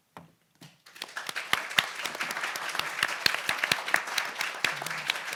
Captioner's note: audience applauds